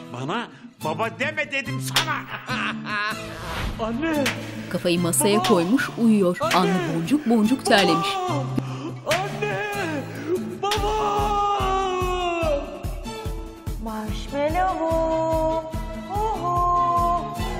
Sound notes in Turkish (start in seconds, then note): 4.2 Tokat sesleri; 9.0 Tokat sesi; 9.0 Tokat sesleri